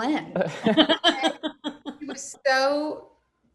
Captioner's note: laughing